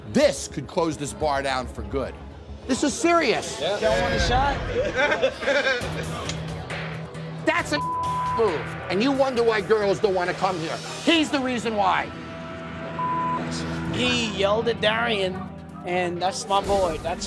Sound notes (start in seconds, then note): 4.5 laughing